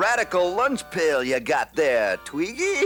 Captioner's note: laughs